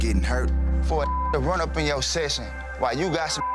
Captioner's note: beeps